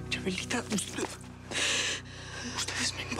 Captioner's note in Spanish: sollozos